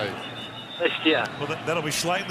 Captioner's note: whistle blowing